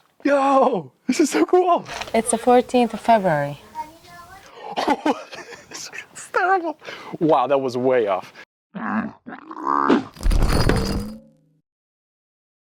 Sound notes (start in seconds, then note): 4.5 laughing; 8.8 camel bleat